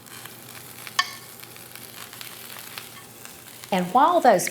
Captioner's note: sausages sizzling